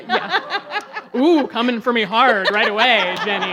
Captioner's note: audience laughs